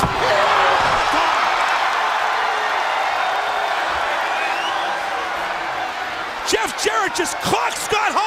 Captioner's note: crowd cheering